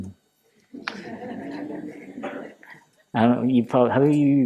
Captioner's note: laughter